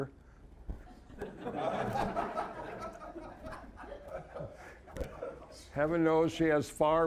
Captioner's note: audience laughing